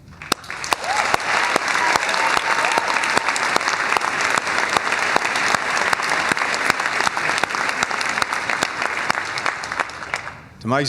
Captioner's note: cheers and applause